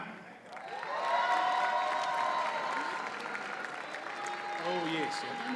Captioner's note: audience cheers and applauds